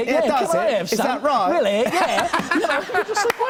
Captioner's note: normal voice